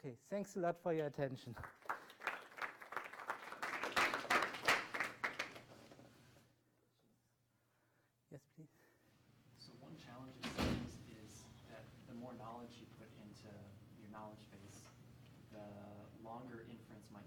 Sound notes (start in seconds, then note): 1.5 applause